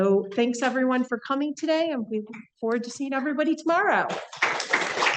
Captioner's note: applause